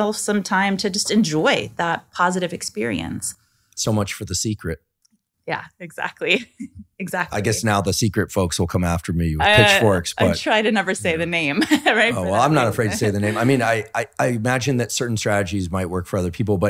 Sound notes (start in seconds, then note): 7.2 laughing; 11.4 laughing